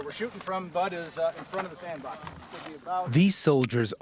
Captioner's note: voiceover